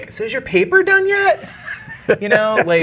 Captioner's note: guy laughing